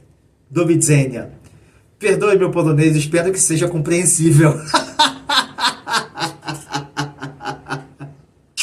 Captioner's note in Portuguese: risadas